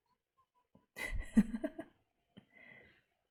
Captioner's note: laughs